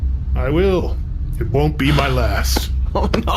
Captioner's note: chipper